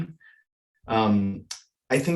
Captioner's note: audio cuts out